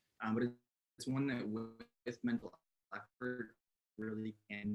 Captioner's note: audio distorts